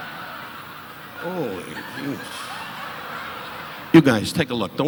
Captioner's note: audience laughing